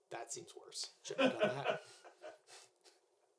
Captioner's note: laughing